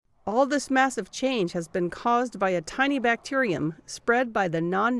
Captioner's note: voice-over